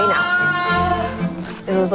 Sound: moaning

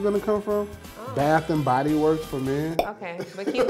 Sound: laughs

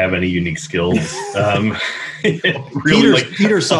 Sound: both laughing

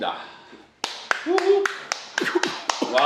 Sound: clap clap clap

